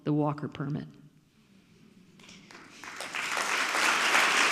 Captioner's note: audience clapping